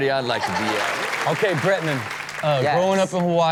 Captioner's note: audience applauding